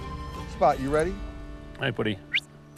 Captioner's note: whistles